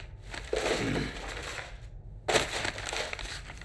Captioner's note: crinkling